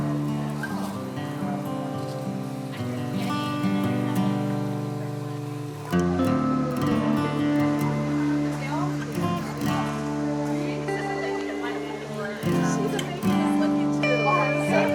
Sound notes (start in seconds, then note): 8.5 chatter in background